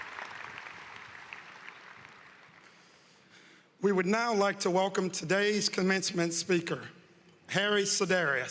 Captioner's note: applause